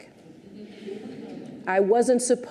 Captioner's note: audience chuckles